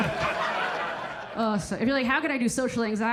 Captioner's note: audience laughing